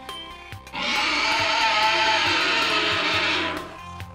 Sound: dinosaur screeches

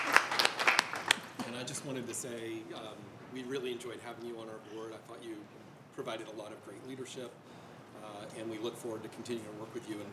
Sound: applause

